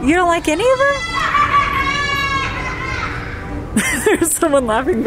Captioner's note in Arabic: شخص يضحك بصوت عالٍ